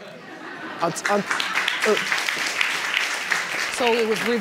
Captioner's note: audience laughs and applauds